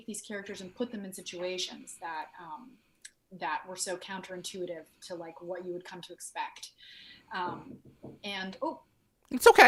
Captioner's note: knocking sound